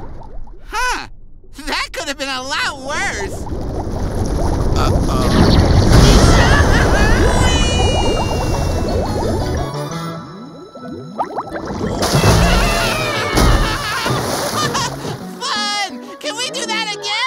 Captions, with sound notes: Huh. That could've been a lot worse. Uh-oh. [screaming] Whee! Whee-hee-hee! [screaming] (laughing) Fun! Can we do that again?!